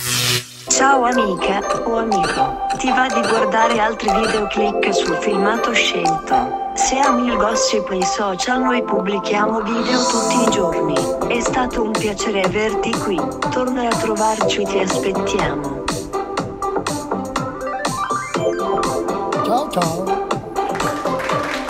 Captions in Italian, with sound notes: i tuoi Social noi pubblichiamo video tutti i giorni è stato un piacere averti qui torna a trovarci Ti aspettiamo [Applauso]